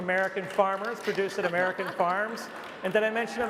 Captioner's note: laughter & applause